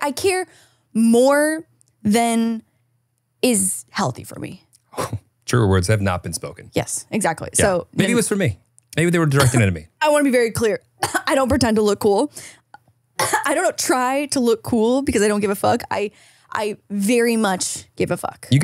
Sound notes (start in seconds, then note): 9.2 coughs; 9.3 cough; 13.2 coughs